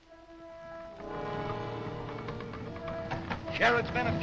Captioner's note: intriguing music; sound of hooves galloping